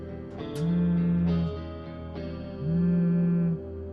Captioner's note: phone vibrating